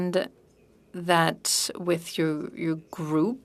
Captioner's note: speaking French